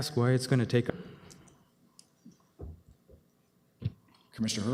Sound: audio drop

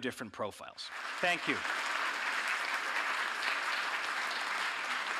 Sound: audience applauding

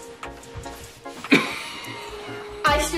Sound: coughs

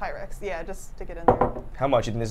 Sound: cup thuds

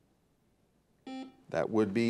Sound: buzzer beeps

